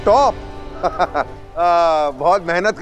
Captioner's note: Giggling